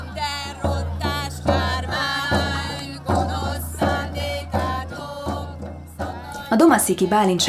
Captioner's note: chant